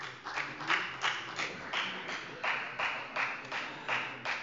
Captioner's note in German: Beifall bei der FDP